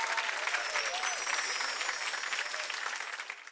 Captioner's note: chimes